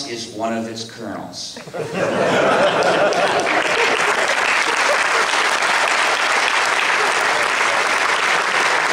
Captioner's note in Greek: Δυνατά γέλια και χειροκροτήματα από το ακροατήριο